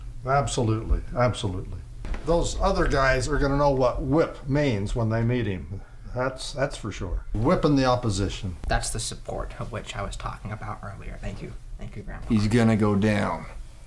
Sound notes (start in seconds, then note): none